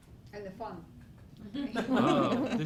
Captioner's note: laugh